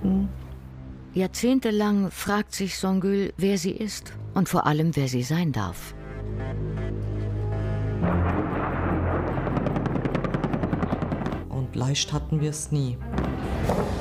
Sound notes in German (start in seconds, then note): 6.1 Düstere Musik; 8.2 Ratternde Schüsse